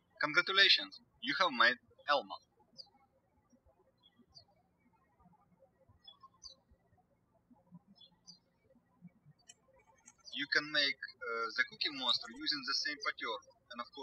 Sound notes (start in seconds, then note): 3.6 birds chirping